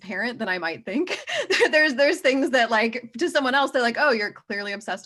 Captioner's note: laughs